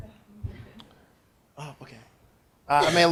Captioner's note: laughing